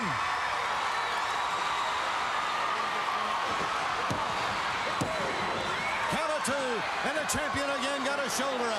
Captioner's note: crowd cheering